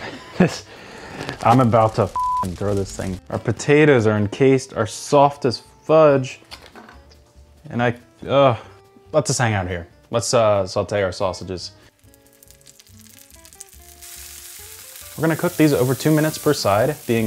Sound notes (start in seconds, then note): 0.1 chuckling; 2.1 beep; 11.9 pan sizzling